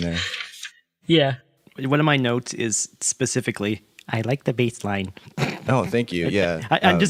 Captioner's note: laughs